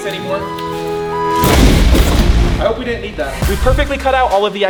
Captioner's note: explosion booming